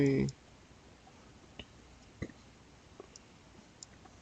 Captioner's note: mouse clicking